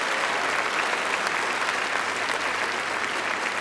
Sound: applause

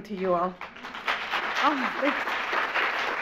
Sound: audience applauds

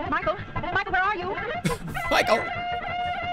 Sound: chuckles; sped-up horn music

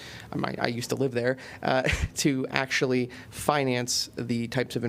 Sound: laughter

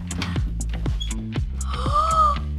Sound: gasps

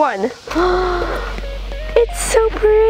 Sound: gasping

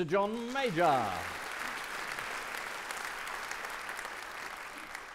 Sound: audience clapping

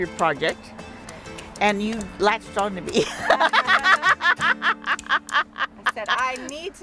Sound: laugh

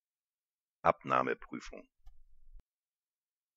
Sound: fast Pronunciation

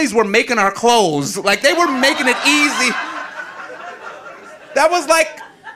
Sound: audience laughing

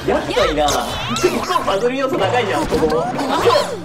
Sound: laugh

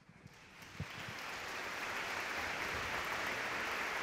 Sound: audience clapping

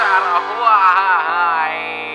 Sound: sobbing

